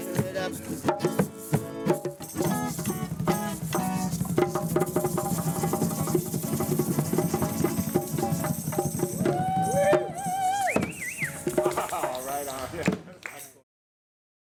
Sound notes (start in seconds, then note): 9.1 whistles; 10.6 chuckles